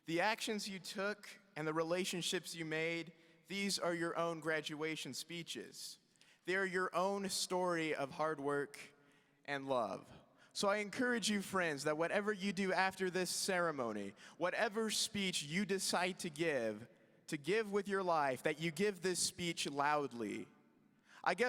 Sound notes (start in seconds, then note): none